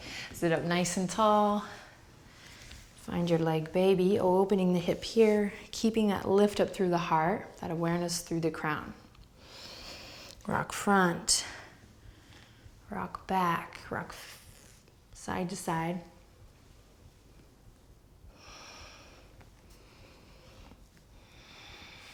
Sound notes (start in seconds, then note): 18.5 deep breathing